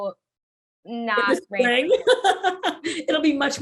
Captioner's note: laughs